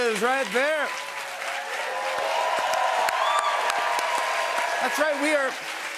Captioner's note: cheers and applause